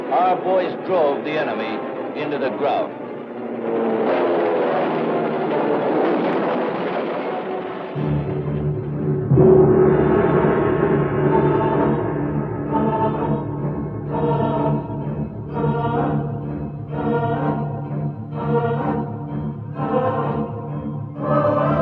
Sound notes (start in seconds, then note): 6.1 booming; 8.1 suspenseful music